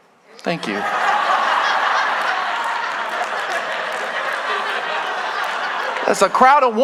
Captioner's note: congregation laughing